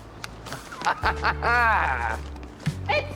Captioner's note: laughs